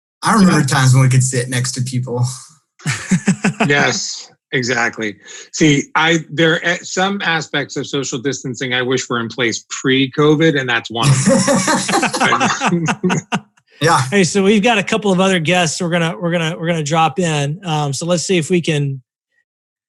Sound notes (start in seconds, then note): 2.8 laughing; 11.0 all laughing